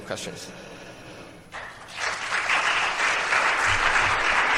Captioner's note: applause